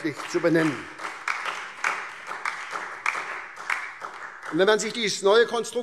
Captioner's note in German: Beifall SPD, Freie Demokraten und DIE LINKE